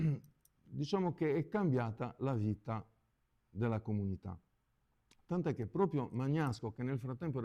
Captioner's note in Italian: schiarire la voce